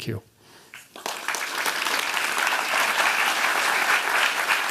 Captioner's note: applause